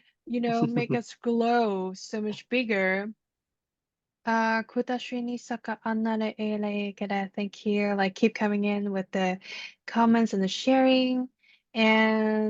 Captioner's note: light language